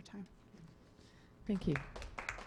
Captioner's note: clapping